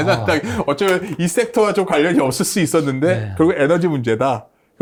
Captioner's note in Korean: 웃음